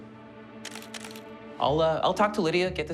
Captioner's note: camera shutter clicking